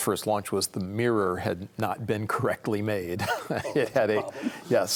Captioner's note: chuckles